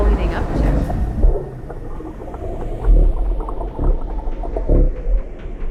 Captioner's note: underwater burbling; ominous music